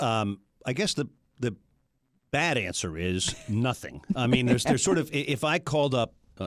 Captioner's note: laughs